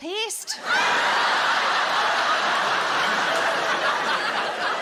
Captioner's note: audience laughing